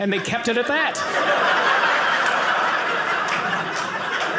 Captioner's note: audience laughing